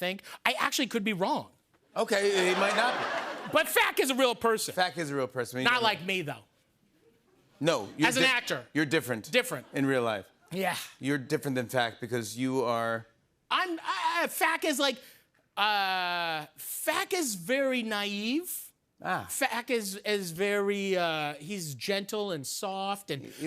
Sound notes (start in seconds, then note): 2.2 laughter